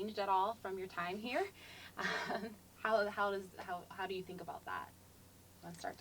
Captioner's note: laugh